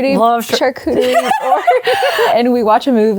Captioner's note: both laughing